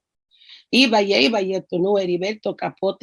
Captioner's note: speaking in foreign language